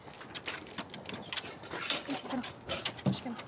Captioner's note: footsteps crunching on gravel; kennel door creaks open